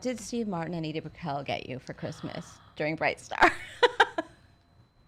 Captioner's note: laughs